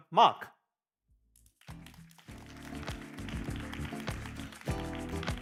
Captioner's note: applause